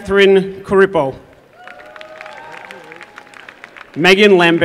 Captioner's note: applause